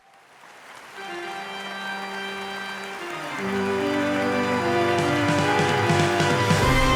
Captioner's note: audience applauds; spooky organ music